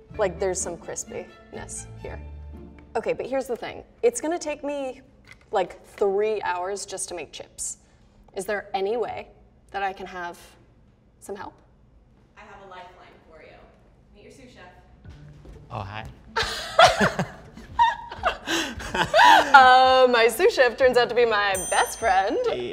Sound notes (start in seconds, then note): 16.4 laughter